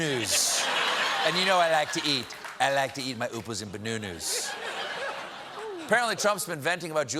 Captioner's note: laughter